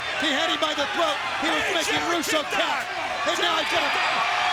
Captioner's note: overlapping chatter; crowd cheering